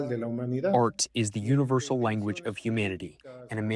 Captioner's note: through translator